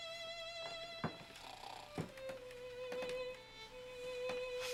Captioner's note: loud snoring